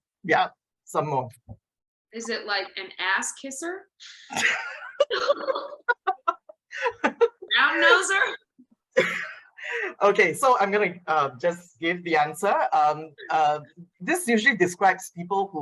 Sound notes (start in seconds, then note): 4.3 laughter